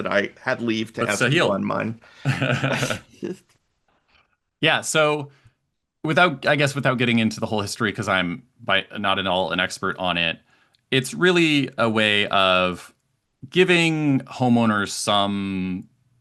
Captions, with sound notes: that I had leave to have on mine. (both laughing) - Yeah so, I guess without getting into the whole history, 'cause I'm not an all an expert on it, it's really a way of giving homeowners some comfort,